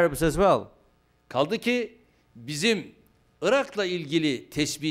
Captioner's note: non-english speech